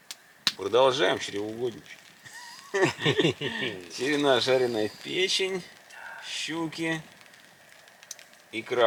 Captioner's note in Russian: смех